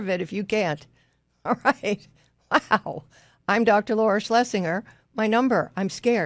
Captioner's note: laughs